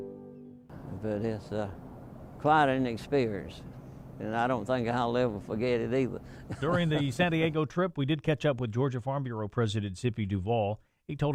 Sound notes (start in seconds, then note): 6.4 laughter